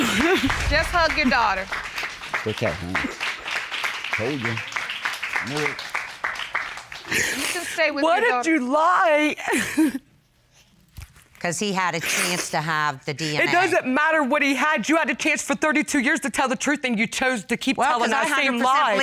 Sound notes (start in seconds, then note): 9.3 sobs